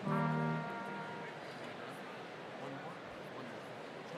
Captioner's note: crowd chattering